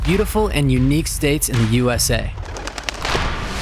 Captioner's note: birds flapping